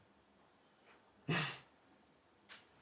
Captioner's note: Lacht auf